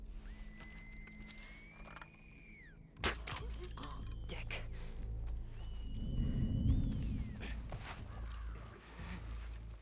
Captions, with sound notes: (whistle) (whistle) Dick! (whistle) Everyone...